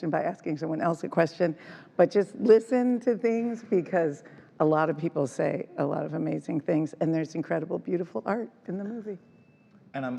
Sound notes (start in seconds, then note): none